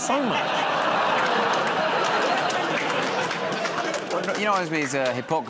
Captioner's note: laughter, groaning